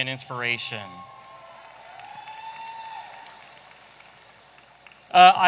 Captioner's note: audience applauding